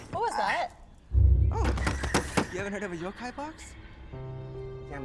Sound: demonic whispers

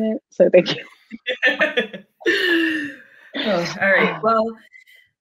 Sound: both laughing

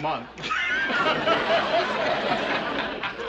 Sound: laughing

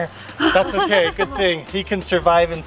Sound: laughing

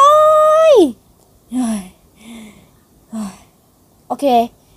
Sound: heavy breathing

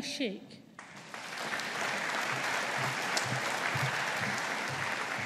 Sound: audience applauding

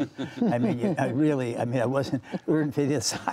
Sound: laughter

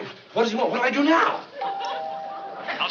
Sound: doorbell ringing; on walkie-talkie

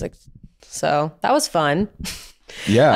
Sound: laughs

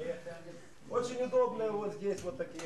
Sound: russian speech

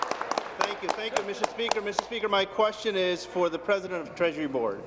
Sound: applause; cheers

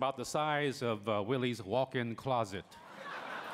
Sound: laughter

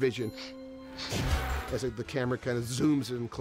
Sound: sniffing

